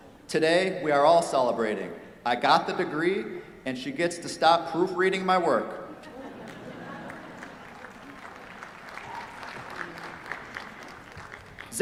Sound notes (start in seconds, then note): 5.9 laughter; 7.0 applause